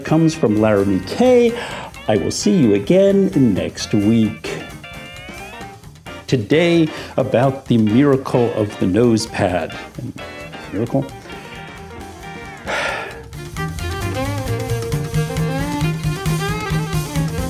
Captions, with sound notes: comes from Laramy-K. I will see you again next week. Today, about the miracle of the nosepad. Miracle? (deep sigh) (uptempo jazz music)